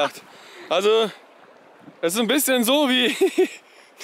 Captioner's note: laughs